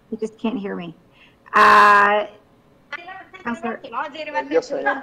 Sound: members chattering

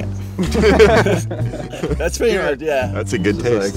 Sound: laughing

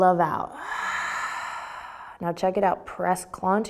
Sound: exhaling breath

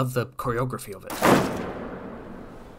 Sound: stomp

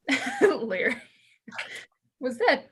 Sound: chuckles

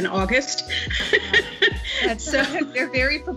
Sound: laughing

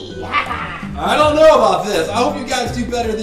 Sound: voiceover

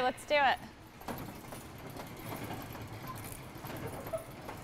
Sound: door rattles

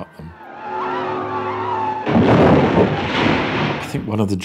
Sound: flying saucer whirring before crashing into tower

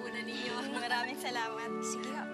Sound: chuckles

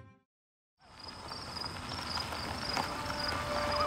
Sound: tires on gravel

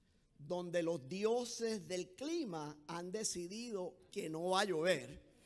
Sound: speaking in foreign language

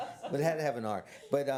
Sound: laughter

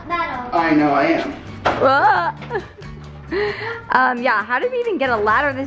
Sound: chuckles

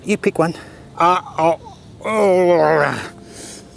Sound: sound of eating

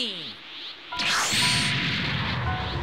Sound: ominous teleport

